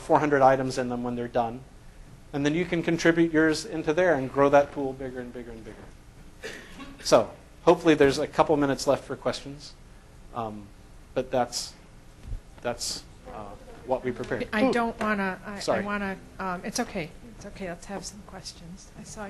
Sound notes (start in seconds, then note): 14.8 voiceover